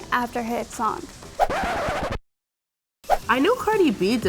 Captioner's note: record scratches